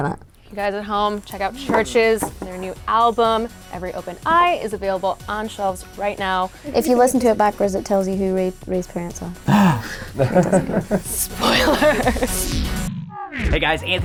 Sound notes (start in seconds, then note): 9.5 gasp; 9.5 laughing